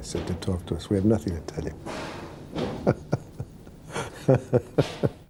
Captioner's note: laughs